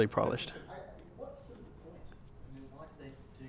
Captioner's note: voiceover